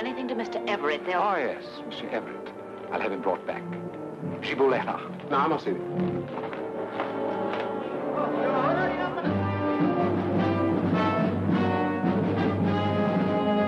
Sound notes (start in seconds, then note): 5.5 speaks foreign language; 6.3 man speaks foreign language; 9.4 people chattering; 10.7 ominous music